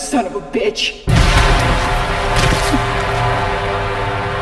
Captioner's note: gunshot fires; dramatic music